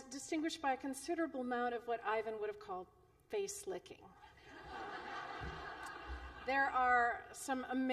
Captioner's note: laughter